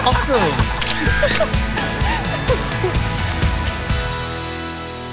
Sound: camera shutter

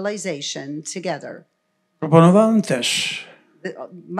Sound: foreign language

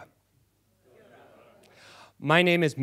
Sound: audience responds

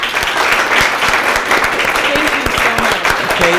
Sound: audience applauds

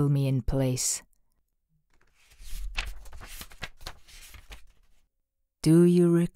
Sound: pageturning sound

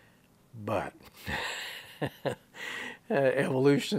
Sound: he laughs

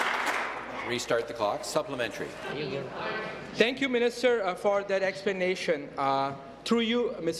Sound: applause

